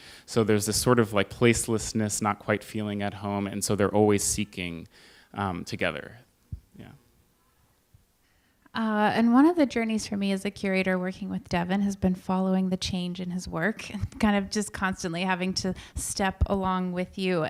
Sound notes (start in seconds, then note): none